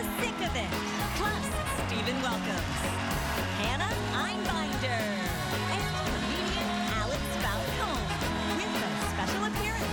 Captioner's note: cheers and applause